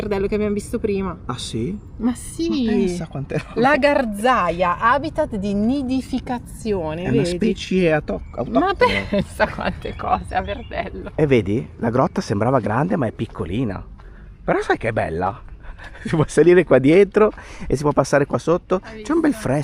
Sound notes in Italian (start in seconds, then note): 8.7 risate